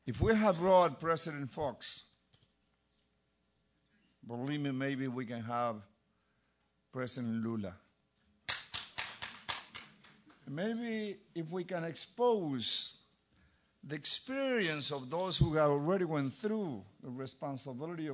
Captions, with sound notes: If we have brought President Fuchs, believe me, maybe we can have President Lula. >> [APPLAUSE] >> Maybe if we can expose the experience of those who have already went through the responsibility of conducting